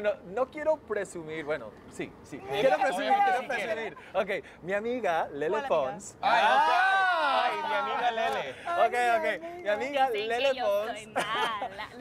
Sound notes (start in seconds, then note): 6.2 Exclamaciones